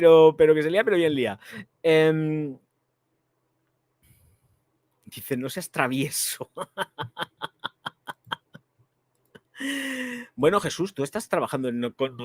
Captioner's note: laughs